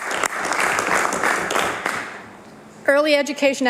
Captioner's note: applause